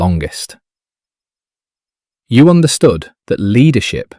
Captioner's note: none